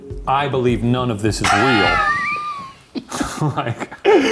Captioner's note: laughing